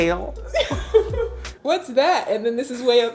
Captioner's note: laughs